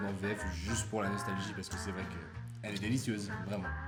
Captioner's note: French dubbed